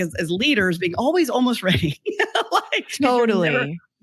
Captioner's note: laughs